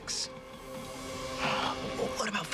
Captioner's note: sigh